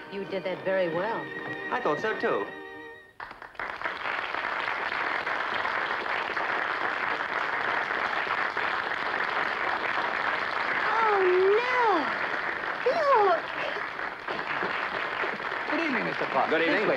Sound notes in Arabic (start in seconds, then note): 3.2 الحشد يصفق